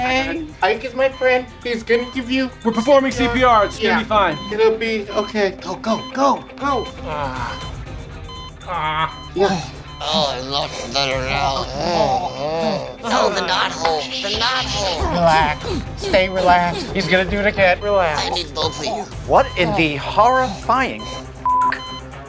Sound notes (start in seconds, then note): 6.9 heart monitor beeping; 8.5 breathing